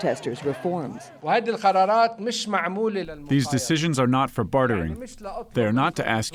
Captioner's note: through translator